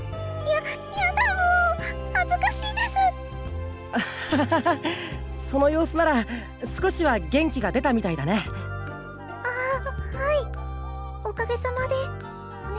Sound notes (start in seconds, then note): 4.0 awkward laugh